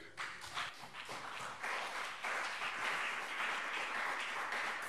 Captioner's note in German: Beifall CDU und BÜNDNIS 90/DIE GRÜNEN